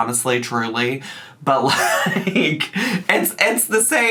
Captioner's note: laughs